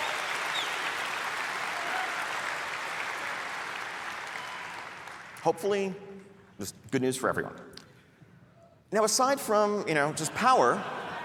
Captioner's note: cheering